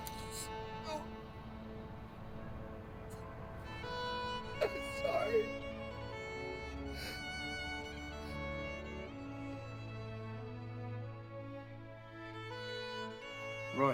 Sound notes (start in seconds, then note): 4.7 weeping